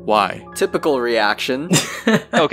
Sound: laughs

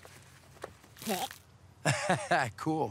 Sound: vomiting; laughs

